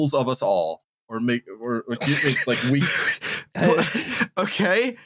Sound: laughing; stammers

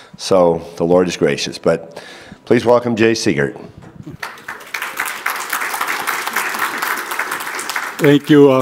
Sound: audience claps

